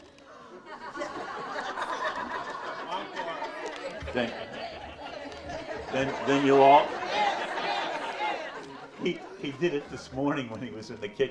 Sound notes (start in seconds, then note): 0.2 audience laughs; 2.9 audience chatters; 5.4 audience laughs